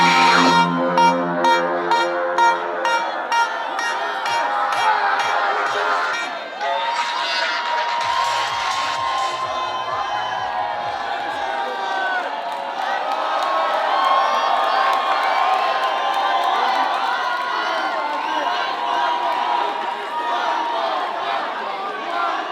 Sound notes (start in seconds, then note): 3.2 crowd cheering loudly; 3.2 music fading out; 9.9 crowd cheering loudly